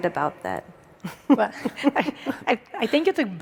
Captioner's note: laugh